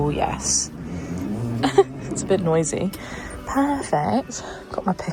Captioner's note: recliner squeaks